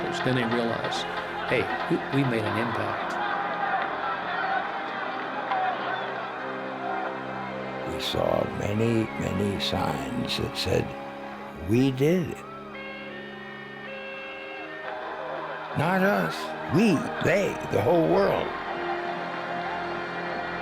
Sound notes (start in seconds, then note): 4.6 crowd clamoring